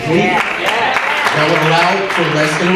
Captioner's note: people clapping